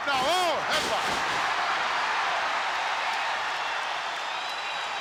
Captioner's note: crowd cheers